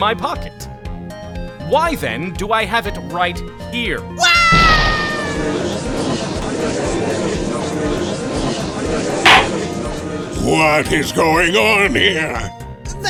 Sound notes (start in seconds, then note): 5.8 gallery chattering; 9.2 gavel slams!